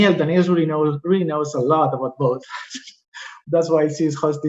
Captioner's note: laughing